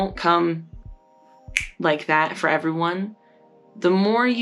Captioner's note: snap